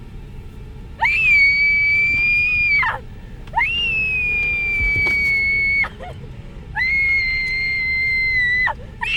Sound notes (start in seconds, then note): 1.0 screaming; 6.7 sobbing,</i> <i> Screaming Continues